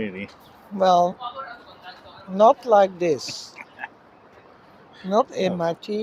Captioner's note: chuckles